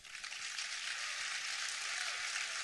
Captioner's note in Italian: applausi